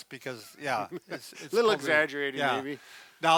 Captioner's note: laughs